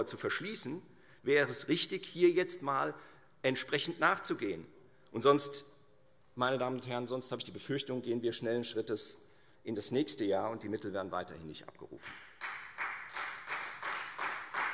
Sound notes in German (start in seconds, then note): 12.0 Beifall Freie Demokraten